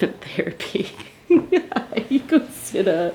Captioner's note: laughing